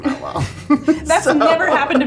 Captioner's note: both chuckling